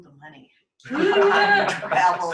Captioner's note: laughter